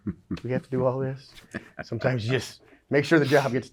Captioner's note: laughs